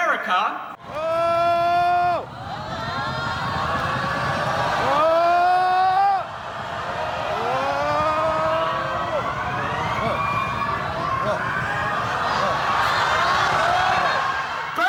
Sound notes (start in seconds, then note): 5.2 crowd: drumrolls and whoa's